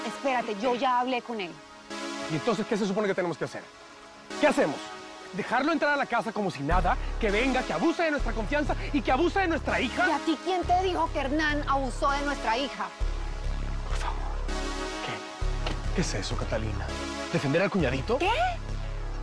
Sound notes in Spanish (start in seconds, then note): 14.9 Susurra